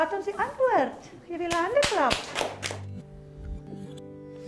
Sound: applause

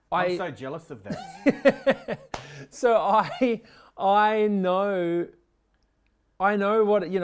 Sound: laughs

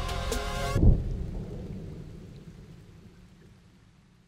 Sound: thunder fading

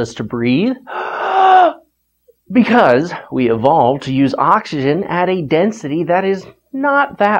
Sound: big inhale

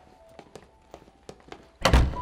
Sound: footsteps; door closes

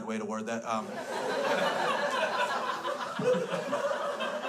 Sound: crowd laughs

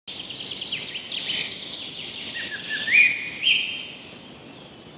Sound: birds chirping

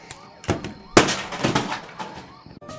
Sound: bam

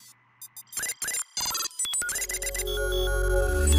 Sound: robot beeps; light music

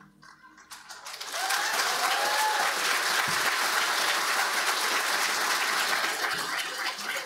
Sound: audience applauding; audience cheering

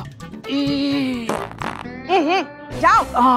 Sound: farting

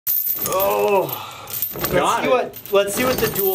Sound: grunting

